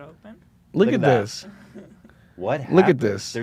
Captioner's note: laughs